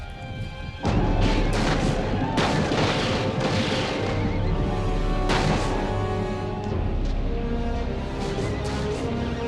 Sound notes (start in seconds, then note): 1.0 posse hollering; 1.3 gunfire blasting; 6.1 tense dramatic music